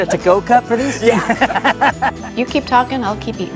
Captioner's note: all laughing